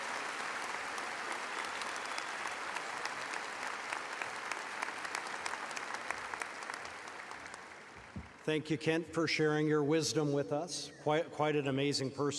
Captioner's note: applause